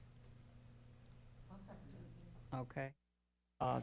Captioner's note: quietly